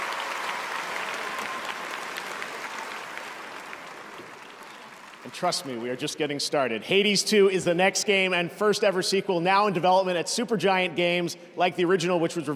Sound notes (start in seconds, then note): 5.3 cheers and applause